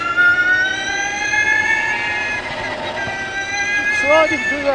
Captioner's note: engine revving